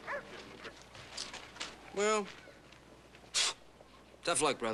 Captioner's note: exhales sharply